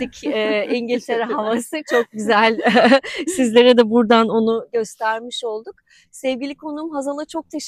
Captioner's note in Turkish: kahkaha